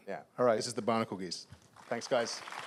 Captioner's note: applause